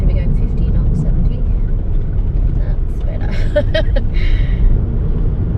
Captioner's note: road noise quiets slightly; chuckles nervously